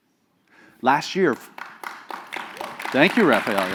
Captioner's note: applause